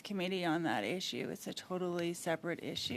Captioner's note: speaking French